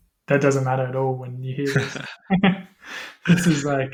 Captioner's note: laughter